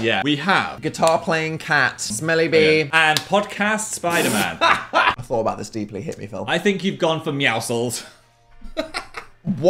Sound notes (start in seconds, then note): 4.2 Dan laughs; 8.7 laughs